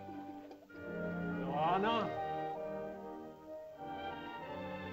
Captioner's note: man calls out to girl; soft music